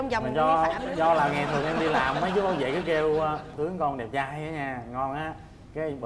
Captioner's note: laughing